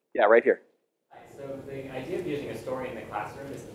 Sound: voiceover

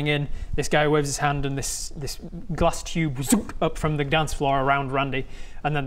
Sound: tsunk

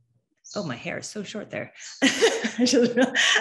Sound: laughs

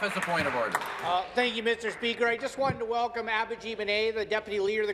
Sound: applause

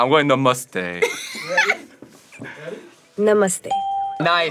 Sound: laughs; bell rings

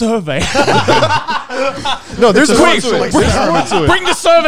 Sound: all laughing

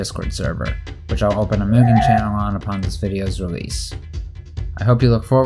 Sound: SM64 warp sound

